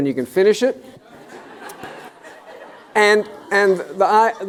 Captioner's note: laughter